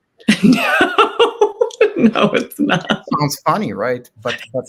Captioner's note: chuckles